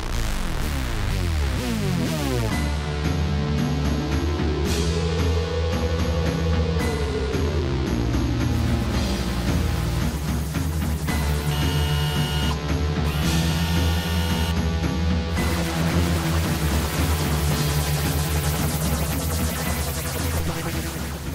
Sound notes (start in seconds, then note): 0.3 foreboding synth music; 2.6 ominous percussion; 8.8 blasters zapping; 11.5 overseer whirring; 15.4 blasters zapping